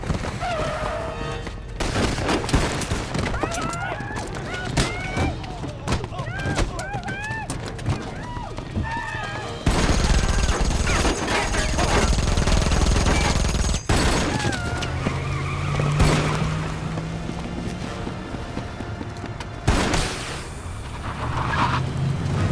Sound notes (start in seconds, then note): 0.3 tires squealing; 1.8 guns firing; 4.6 punches and kicks thudding; 9.6 guns firing; 14.3 tires squealing; 19.4 air hissing; 19.6 gun firing